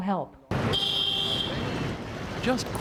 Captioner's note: car horn honking